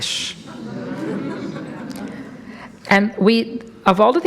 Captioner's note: audience laughs